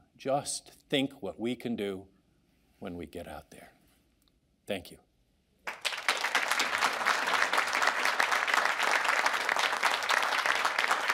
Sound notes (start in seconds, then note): 5.6 audience applauds